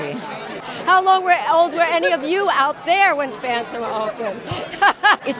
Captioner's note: laughs